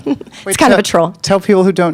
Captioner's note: chuckling